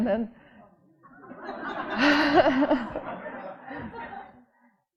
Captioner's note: audience laughing